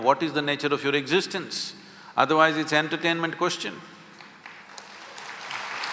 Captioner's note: applause